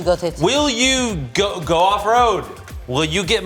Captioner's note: stammering